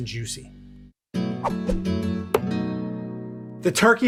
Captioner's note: air whooshing; upbeat music